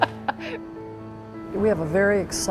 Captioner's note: laughter